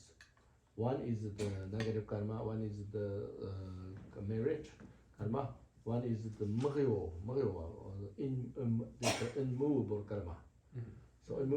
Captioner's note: tibetan